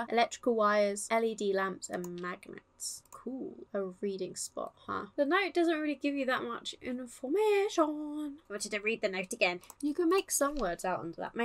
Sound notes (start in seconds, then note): 6.8 sing-song